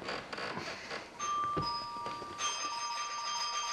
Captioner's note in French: Ding Dong